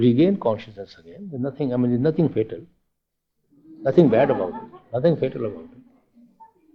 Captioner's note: laughter